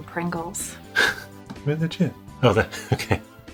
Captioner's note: laughs